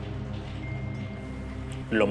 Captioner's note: phone chimes